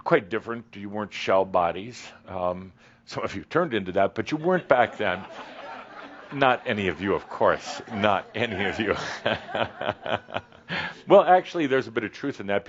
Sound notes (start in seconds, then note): 4.3 laughter; 9.6 Adamus chuckles